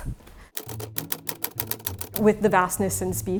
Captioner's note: letters clacking